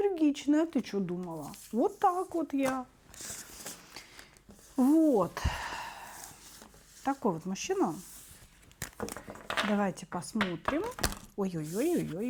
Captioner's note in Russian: вздыхает